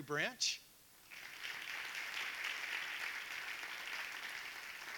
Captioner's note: audience applauding